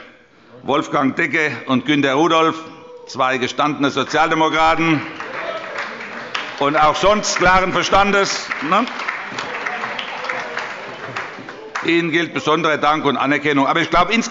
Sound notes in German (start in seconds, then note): 8.8 Allgemeiner Beifall